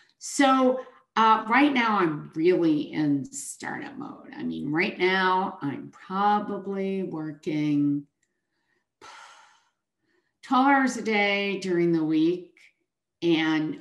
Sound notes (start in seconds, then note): 8.6 sighs